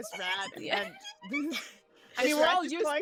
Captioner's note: Penelope chittering